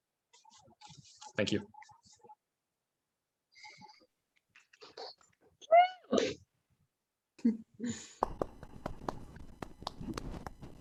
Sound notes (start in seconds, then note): 6.2 clapping